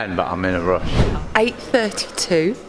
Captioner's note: air whooshing